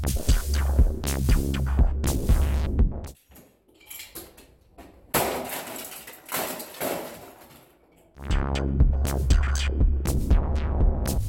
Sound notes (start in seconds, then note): 5.0 whack & clattering; 8.2 techno